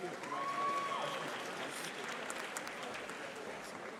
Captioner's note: audience applauding